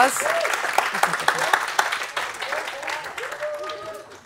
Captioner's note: applause and cheering